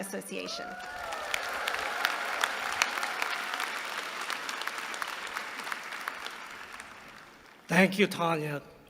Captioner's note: applause